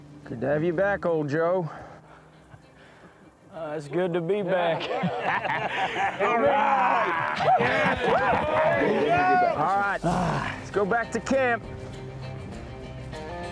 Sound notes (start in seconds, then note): 4.6 laugh